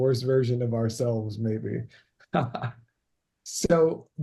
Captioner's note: laughs